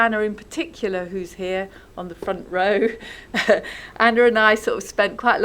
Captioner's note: laughs